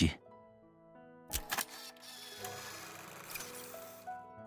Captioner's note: click